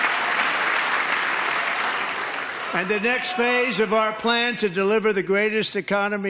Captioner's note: applause